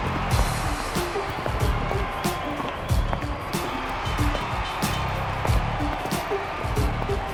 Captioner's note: cheering